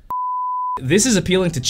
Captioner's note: beeping